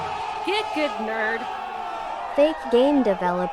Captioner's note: crowd Goes Wild